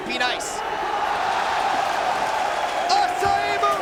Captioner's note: audience cheering